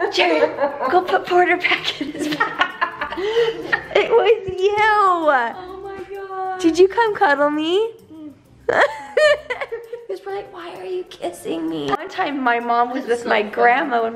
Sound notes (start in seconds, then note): 1.7 laughs; 8.6 laughs